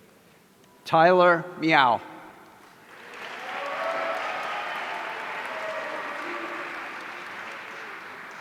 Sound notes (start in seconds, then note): 2.9 audience cheering